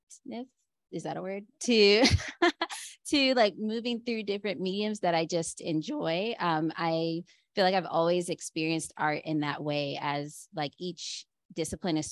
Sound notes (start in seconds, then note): 1.7 laughter